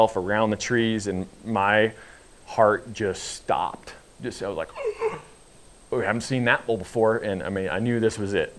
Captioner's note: gasp